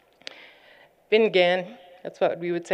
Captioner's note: non-english